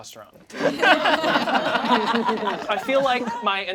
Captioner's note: all laugh